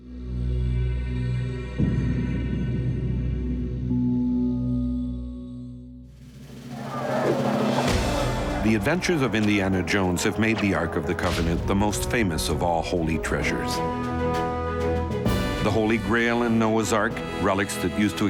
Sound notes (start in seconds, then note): 0.3 ominous orchestral music; 6.2 people yelling; 6.2 punch thumping